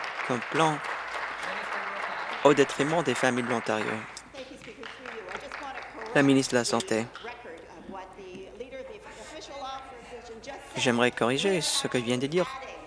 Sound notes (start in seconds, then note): 1.6 applause